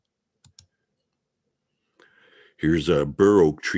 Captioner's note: mouse clicking